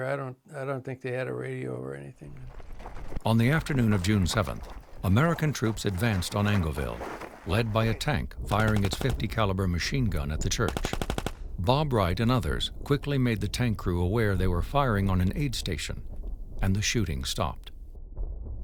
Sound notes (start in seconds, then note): 2.3 footsteps thumping